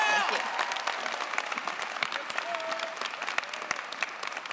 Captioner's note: cheers, applause